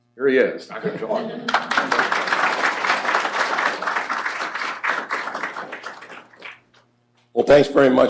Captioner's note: applause